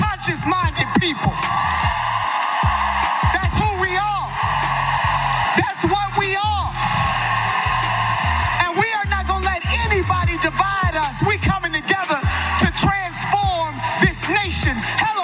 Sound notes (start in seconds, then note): 6.9 applause